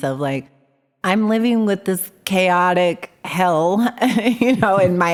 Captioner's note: laughs